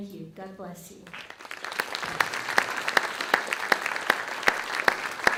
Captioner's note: audience clapping